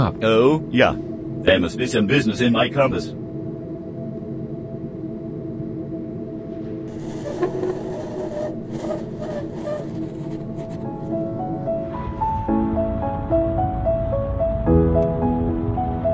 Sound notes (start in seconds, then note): 4.1 ominous tones; 6.9 wood scraping